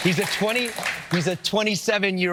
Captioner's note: appla ause